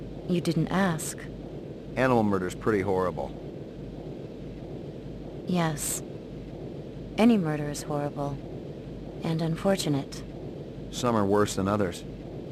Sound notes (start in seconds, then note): none